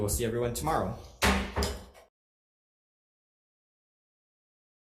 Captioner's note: gavel thuds